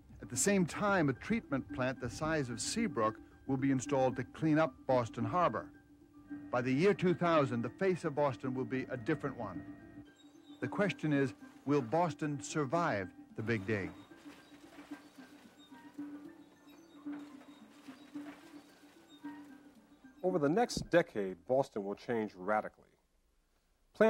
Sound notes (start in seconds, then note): 13.4 machinery scraping; 14.7 pensive music continues